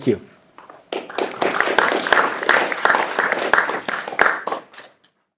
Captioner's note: audience applauds